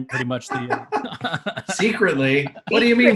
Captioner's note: Garrett laughing